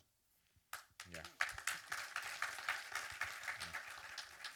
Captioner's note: audience applause